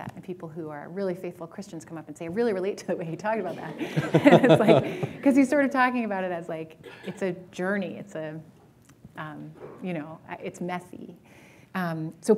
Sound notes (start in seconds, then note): 3.5 laughter